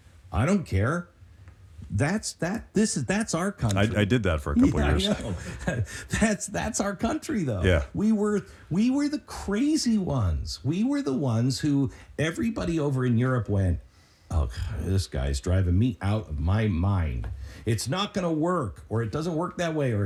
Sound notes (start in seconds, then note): 4.6 laughs